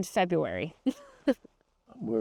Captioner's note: chuckles